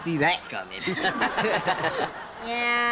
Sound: laughing

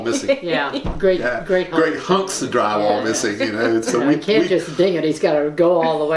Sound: laughter

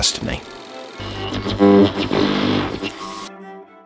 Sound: mechanical whirring; gentle music

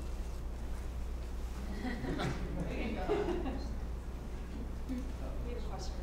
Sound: laugh

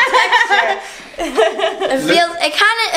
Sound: woman laughing

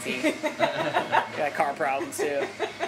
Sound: laughing

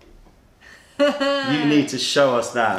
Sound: laughter

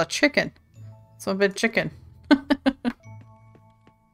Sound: laughs

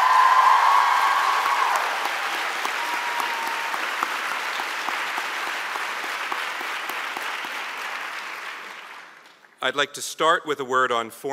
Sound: cheers and Applause

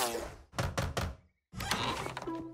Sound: knocking

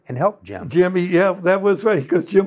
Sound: laughs

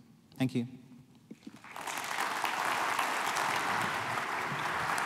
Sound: applause

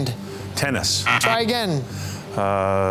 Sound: buzzer sounding

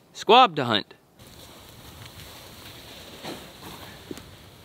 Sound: fizzling steam

